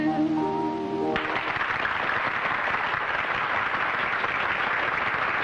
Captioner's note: applause